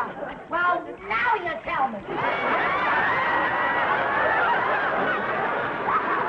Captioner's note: audience laughing